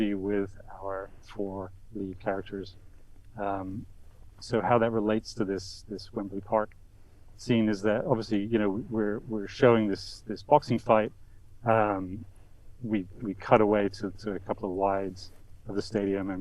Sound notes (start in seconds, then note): none